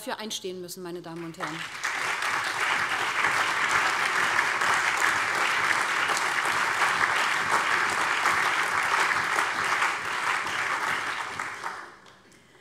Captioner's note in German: Allgemeiner Beifall